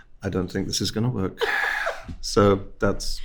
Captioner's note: host laughing